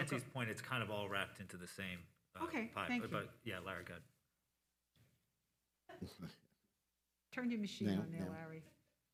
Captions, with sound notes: it's kind of all wrapped into the same pile. - Okay, thank you. - But yeah, Larry go (audio cuts out) - Turn your machine on there, Larry.